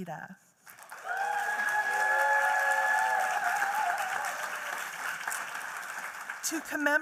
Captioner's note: applause